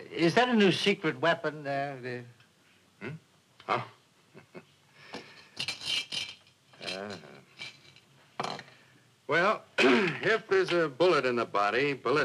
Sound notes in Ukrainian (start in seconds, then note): 4.3 Сміється; 5.5 брязкання іграшкою